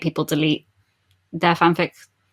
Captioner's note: none